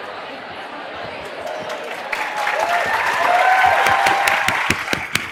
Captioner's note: applause